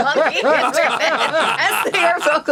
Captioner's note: all laughing